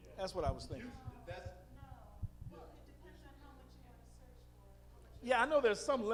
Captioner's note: female audience member speaking